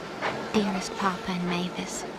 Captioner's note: train rumbling quietly